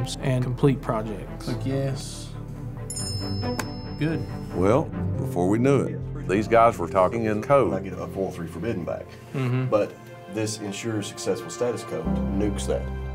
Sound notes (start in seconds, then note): 2.8 chiming